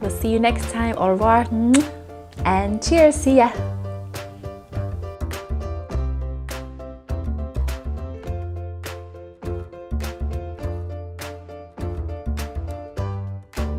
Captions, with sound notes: we'll see you next time. Au revoir. (lip smacks) And cheers, see ya. (instrumental music)